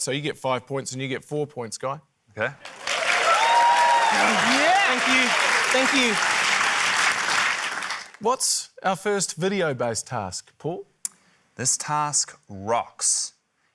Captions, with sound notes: so you get five points, and you get four points, Guy. - OK. (CHEERING, APPLAUSE) - Thank you. Thank you. - What's our first video-based task, Paul? - This task rocks,